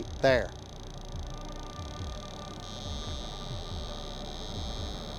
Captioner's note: eerie buzzing